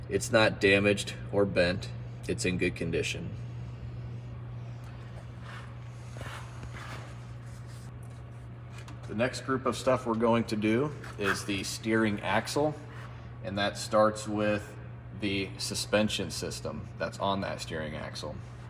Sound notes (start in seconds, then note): 6.6 breathing